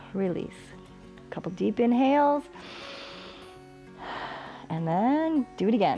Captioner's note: inhales and exhales